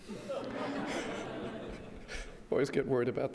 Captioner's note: audience laughs